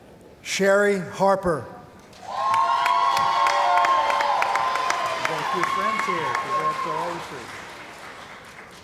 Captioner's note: cheering & Applause